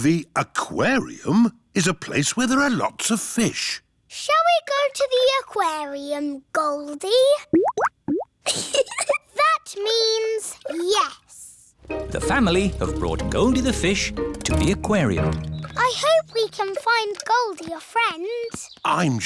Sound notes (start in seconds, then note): 7.5 bubbling; 8.4 giggles